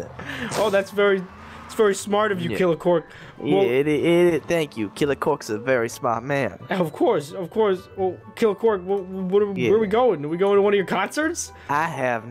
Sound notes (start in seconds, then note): none